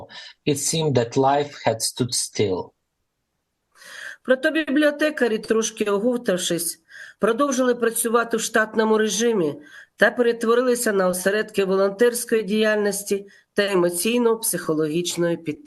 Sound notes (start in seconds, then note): 3.5 foreign language